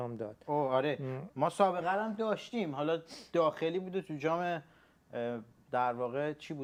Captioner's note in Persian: صدای خرناس